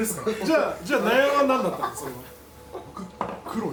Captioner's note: laughs